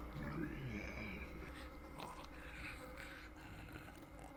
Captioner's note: creature growls